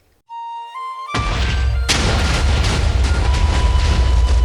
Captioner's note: explosion sounds